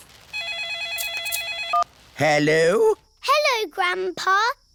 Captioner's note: phone rings